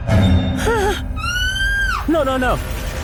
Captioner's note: scream